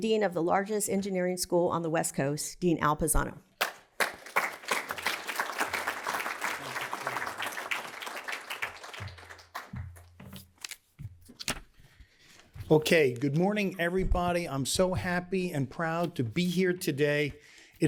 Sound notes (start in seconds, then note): 3.6 applause